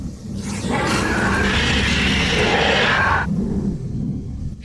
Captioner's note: loud screeching roar